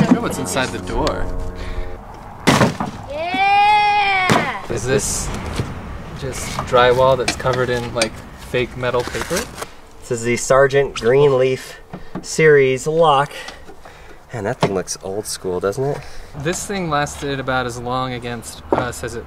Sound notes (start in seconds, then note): 2.4 wooden smashing